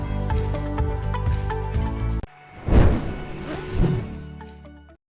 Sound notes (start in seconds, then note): 2.5 whoosing sound